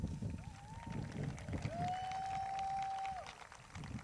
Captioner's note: crowd cheers